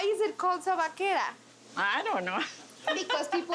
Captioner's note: laughs